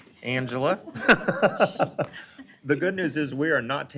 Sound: laughing

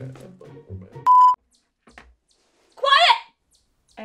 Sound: bird chirping

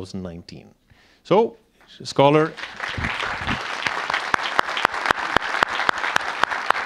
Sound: audience applauding

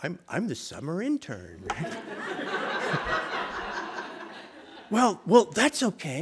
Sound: laughter

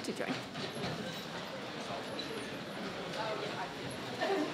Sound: people chattering

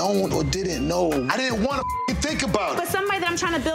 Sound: beep

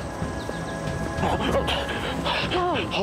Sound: gasps

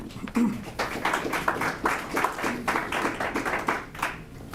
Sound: light applause

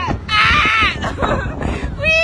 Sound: laughs

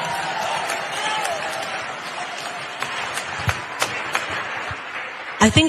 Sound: applause

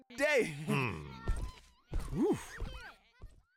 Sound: sighs; grunts

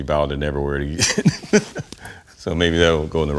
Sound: laughs

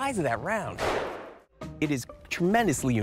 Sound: gunshot

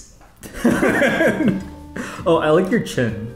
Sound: both laughing

